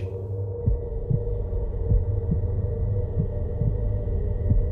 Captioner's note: heart beating